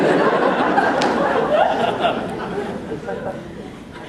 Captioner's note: laughter